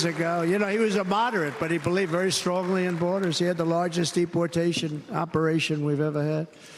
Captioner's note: cheers and applause